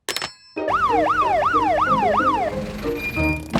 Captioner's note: siren sounding